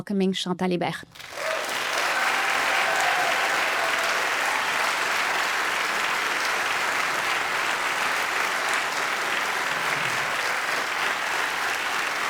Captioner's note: audience applause